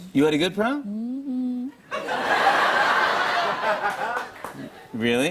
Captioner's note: laughter